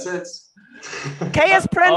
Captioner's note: laughing